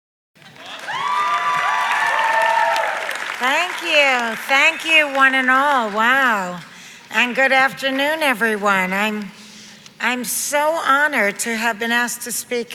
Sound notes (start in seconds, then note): 0.4 audience applauds